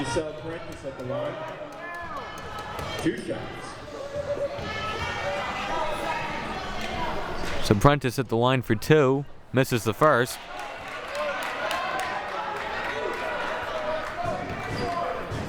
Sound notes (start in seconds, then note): 4.7 audience chattering and yelling; 10.0 audience applauding